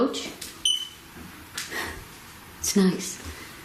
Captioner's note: beep